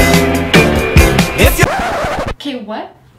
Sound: record scratch

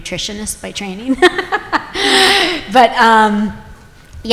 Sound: chuckles

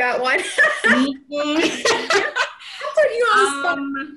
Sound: everyone laughing

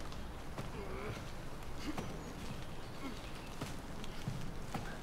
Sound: Chad groaning

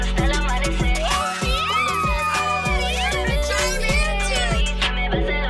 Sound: girls squeal

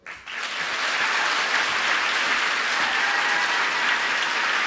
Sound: audience applauds

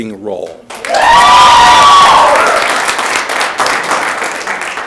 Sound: audience applauding

